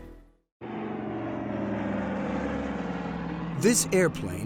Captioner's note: plane engine roars